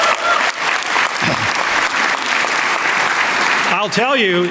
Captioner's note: applause